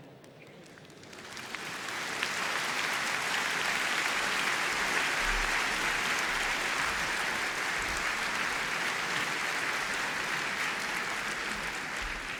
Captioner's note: applause